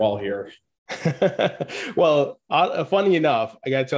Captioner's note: chuckles